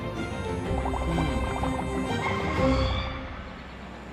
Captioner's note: bubbles rumble